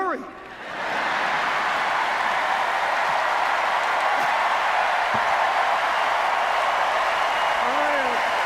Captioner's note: cheers, applause